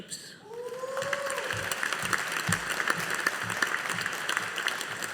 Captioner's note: audience applauding